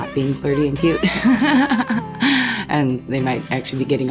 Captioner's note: laughs